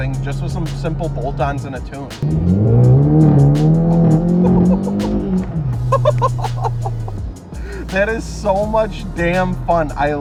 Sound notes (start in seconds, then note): 2.2 engine roaring; 5.8 laughing